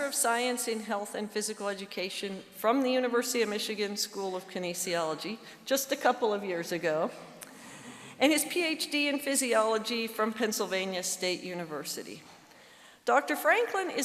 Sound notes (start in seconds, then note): none